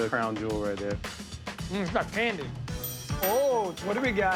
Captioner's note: bell dings